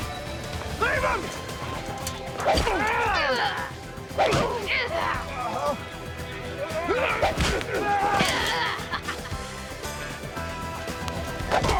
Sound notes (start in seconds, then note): 2.4 crying out; 2.4 whacking